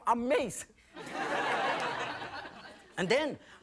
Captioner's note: audience laughing